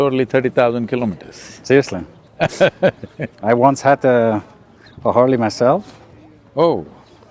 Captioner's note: Sadhguru laughs